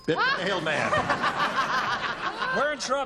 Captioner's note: laughter